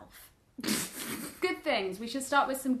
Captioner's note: laughs